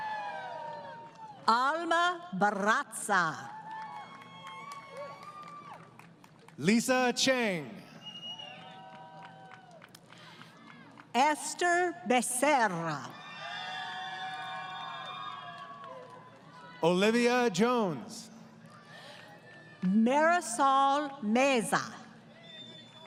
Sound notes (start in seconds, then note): 3.2 applause; 13.1 crowd Cheering; 22.8 applause